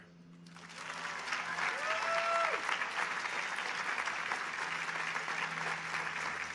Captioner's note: audience applauding